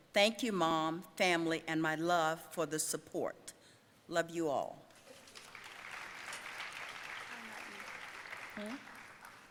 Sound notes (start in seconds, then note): 5.1 audience applauding